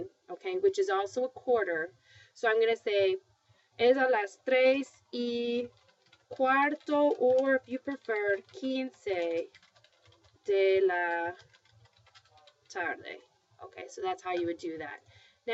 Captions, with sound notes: But it isn't 3:00. It's going to take me so many minutes to get to 3:00. It's going to take me 15, which is also a quarter. So I'm going to say [speaking spanish]-- or if you prefer-- [speaking spanish].